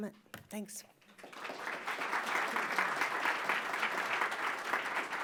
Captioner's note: applause